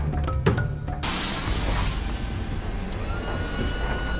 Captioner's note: door hisses